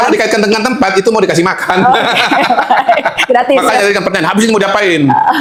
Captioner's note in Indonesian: tertawa